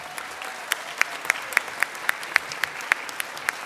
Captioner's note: applause